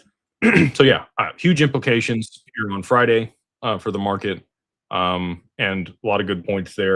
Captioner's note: clears throat